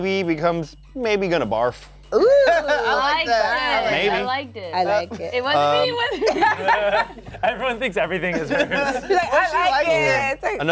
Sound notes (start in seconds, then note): 7.6 laughs